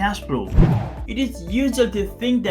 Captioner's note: air swooshing